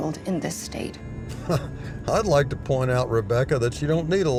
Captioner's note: chuckles